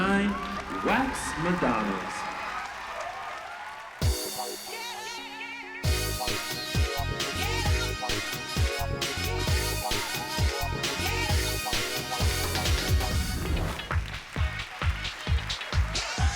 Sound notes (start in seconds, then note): 2.4 audience cheering; 3.5 upbeat dance music playing; 13.6 upbeat funky music playing